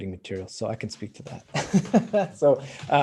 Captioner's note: laughs